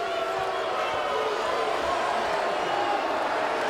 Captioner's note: audience jeers